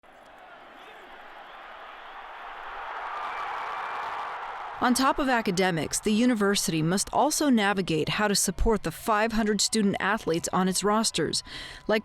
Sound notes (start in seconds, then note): 0.0 spectators cheering